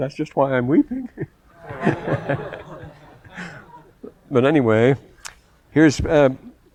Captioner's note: laughter